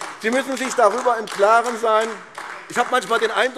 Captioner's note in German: Beifall AfD